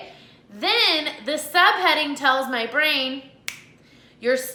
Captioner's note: snaps fingers